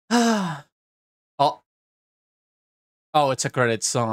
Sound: sigh of relief

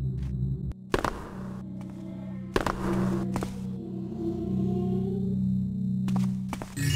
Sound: creepy voices

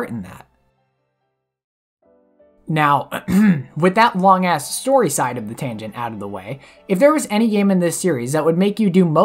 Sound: ahem

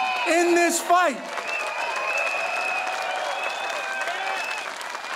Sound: audience cheering

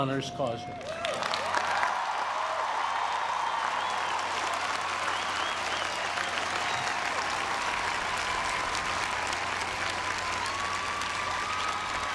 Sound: applause

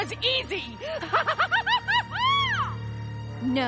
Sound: laughing

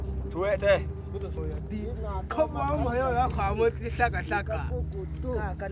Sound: men speaking foreign language

